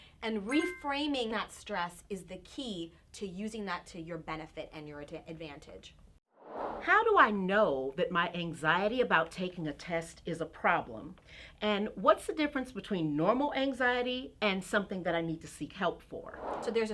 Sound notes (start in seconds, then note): 6.4 air whooshing; 16.3 air whooshing